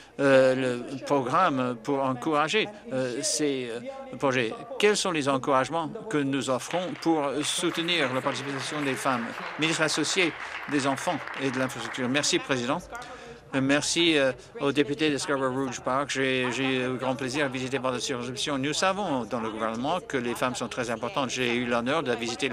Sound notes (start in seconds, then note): 10.1 applause